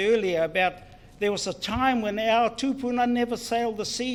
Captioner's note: foreign Language